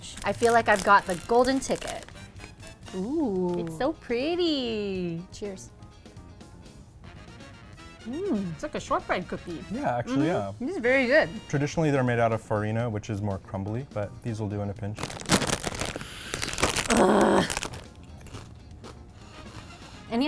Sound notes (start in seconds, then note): 14.9 wrapper crinkles; 15.8 inhales; 16.8 exclaims; 17.9 cracker crunches